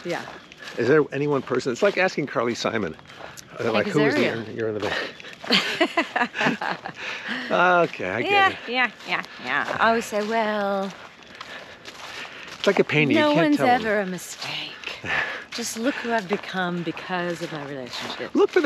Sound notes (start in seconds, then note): 5.4 both laughing amusingly; 8.8 laughing comedically